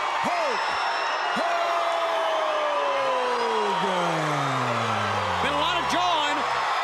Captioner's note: crowd cheering